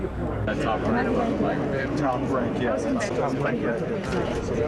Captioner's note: crowd chattering